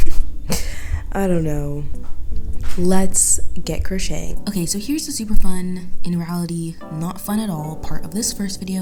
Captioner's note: voiceover